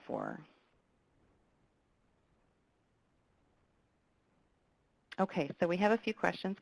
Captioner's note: pause